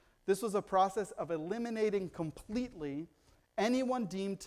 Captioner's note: none